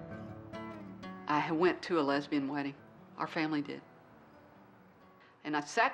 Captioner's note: voiceover